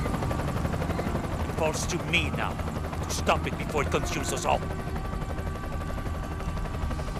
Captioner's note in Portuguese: game audio